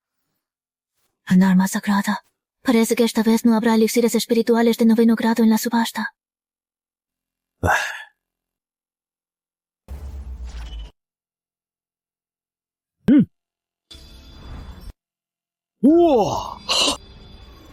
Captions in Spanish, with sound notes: Un arma sagrada... Parece que esta vez no habrá elixires espirituales de noveno grado en la subasta. (Suspiro). ¡Mwahaha!